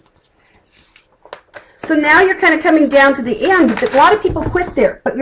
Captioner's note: flipping pages